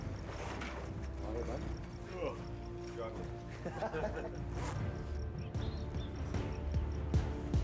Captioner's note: sounds of preparing equipment